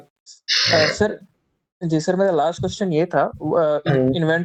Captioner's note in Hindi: नाक से की जाने वाली आवाज़